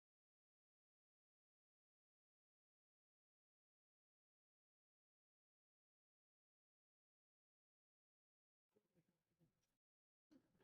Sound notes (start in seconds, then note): 1.9 silence